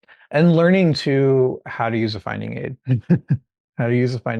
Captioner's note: chuckling